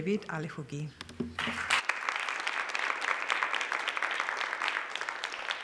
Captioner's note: applause